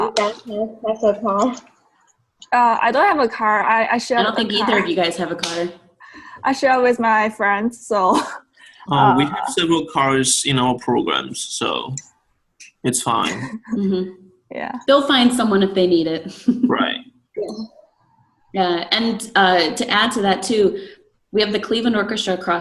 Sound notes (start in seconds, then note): 16.3 laughs